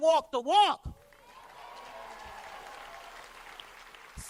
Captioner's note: cheers and applause